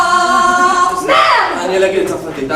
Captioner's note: driver cursing in French